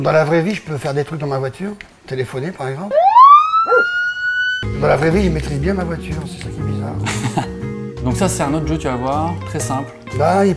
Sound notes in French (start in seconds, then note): 2.9 sirènes de police